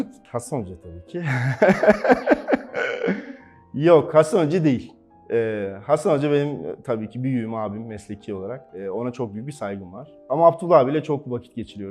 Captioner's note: laughs